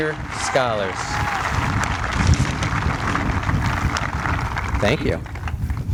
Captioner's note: applause